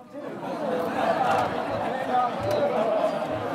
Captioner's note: chattering